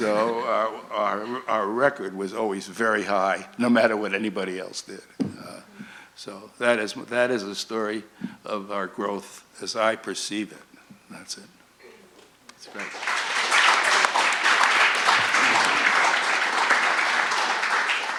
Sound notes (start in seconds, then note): 0.0 audience laughs; 14.3 audience applauds